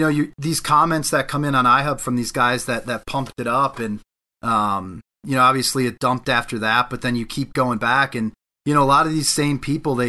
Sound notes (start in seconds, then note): none